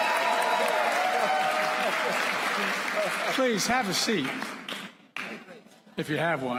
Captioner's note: applause